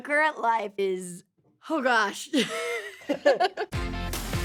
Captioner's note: both laugh; upbeat music playing